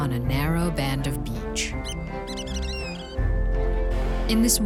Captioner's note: bird calls